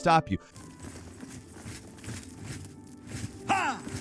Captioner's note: footsteps echoing; characters grunting